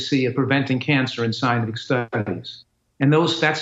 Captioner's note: audio blipping